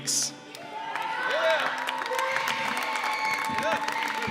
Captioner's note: cheers and applause